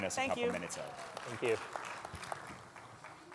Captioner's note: audience applauds